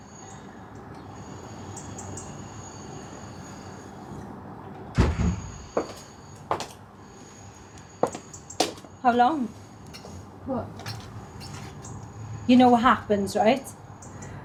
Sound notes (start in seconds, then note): 5.0 door banging; 5.7 footsteps tapping